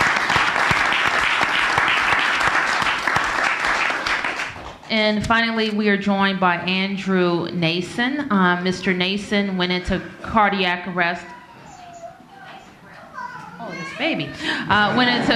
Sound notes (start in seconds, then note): 2.4 applause